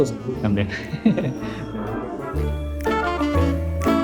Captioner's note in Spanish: risas